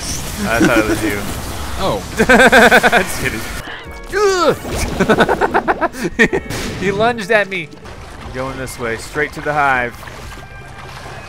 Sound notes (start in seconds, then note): 1.6 voiceover; 2.2 laughs; 3.2 voiceover; 4.1 yells; 4.8 laughs